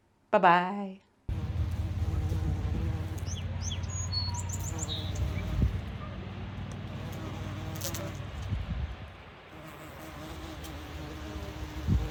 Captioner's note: bee buzzing and birds singing